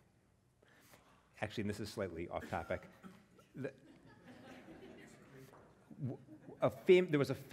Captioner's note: laugh